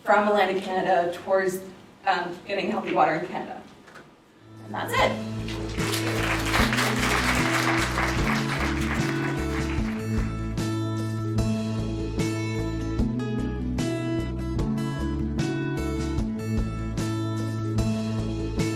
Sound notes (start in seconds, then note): 5.2 audience applauses and credit music plays